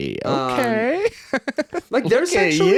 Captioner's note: laughing